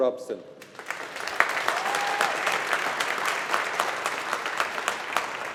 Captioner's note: audience applauding